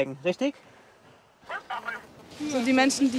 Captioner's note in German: Rauschen